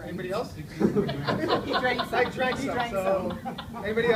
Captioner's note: audience laughs